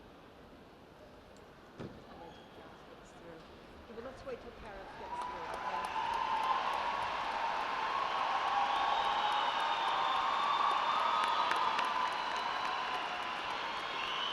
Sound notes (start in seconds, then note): 4.8 cheering and applause